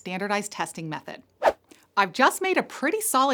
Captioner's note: air whooshing